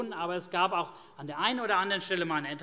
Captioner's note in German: none